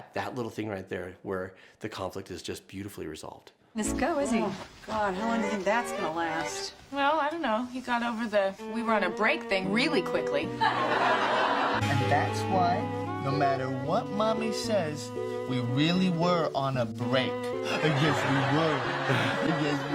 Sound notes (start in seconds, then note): 10.6 audience laughing